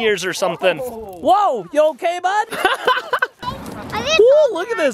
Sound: laughing

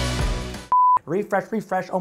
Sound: high energy rock music; loud beep

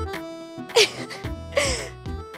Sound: giggling

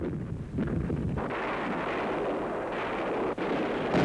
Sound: booming

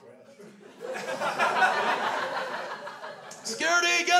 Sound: crowd laughs

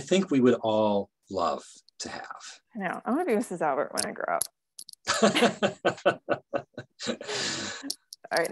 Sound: both laughing

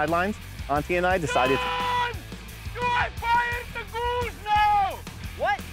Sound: yelling

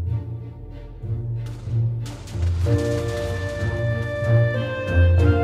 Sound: explosions and Music

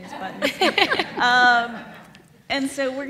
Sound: laugh

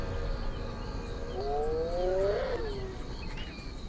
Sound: buffalo mooing

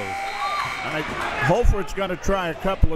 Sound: buzzer ringing; whistle tweeting

